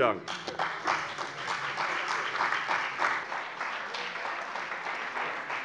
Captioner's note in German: Beifall bei der CDU und dem BÜNDNIS 90/DIE GRÜNEN